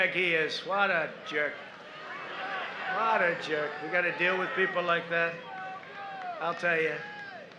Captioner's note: applause